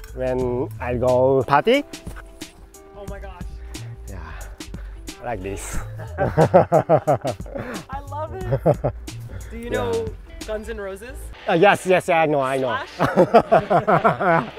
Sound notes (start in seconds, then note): 5.6 laughing; 12.6 laughing